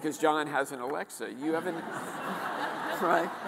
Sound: audience laughing

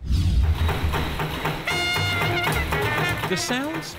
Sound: machine thuds; jazz music

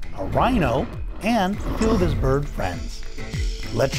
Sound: rhino breaths heavily; bird chirping

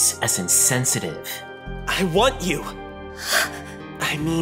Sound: gasps

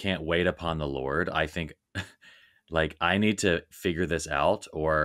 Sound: chuckling

